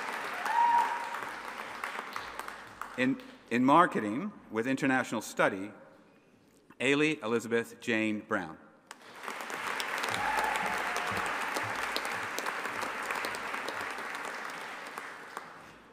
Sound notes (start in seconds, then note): 8.9 audience applauding; 9.7 audience cheering